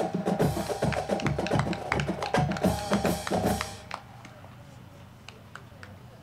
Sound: band music; crowd clapping

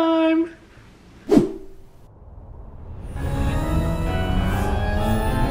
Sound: scene swishes; suspenseful music

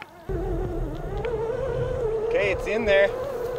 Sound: motor buzzing

